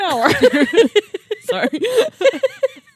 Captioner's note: both laughing